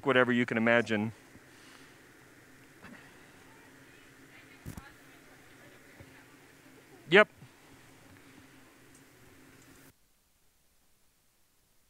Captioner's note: pause; silence